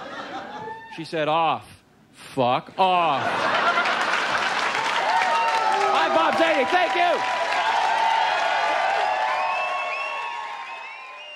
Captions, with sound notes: She said, "Off, fuck off." (audience laughs and cheers) I'm Bob Zany, thank you. (audience cheers and applauds)